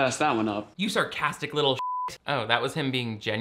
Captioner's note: beep